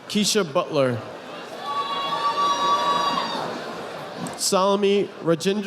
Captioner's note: audience applauding